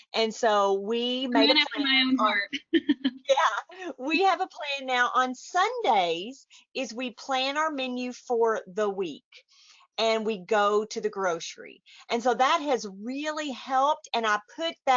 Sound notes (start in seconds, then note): 3.8 laughs; 4.5 chuckles